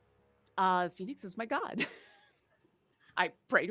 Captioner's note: laughs